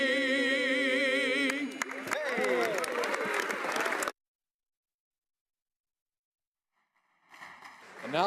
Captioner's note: applause